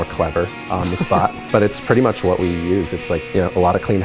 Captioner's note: laugh